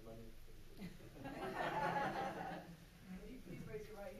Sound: loud laughter

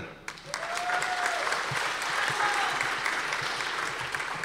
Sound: audience applause

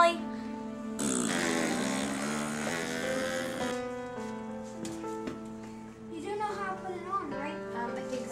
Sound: blowing air

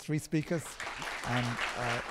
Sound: applause

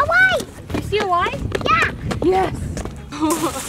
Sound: running footsteps

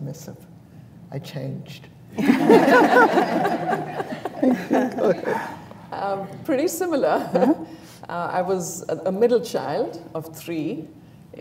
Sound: laughter

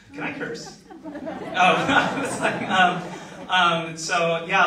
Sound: audience laughs

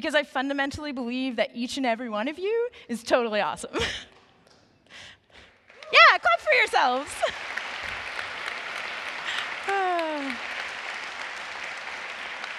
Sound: applause

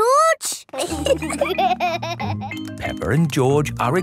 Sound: laughter

